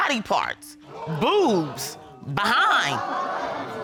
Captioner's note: audience exclaims